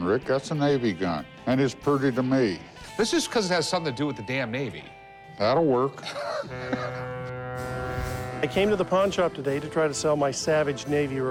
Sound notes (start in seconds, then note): 6.0 laughs